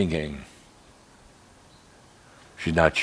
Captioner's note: slight pause